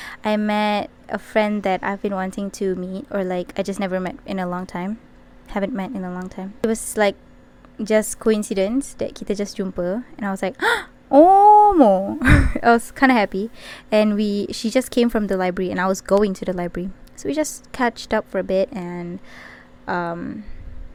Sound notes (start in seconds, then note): 10.6 gasp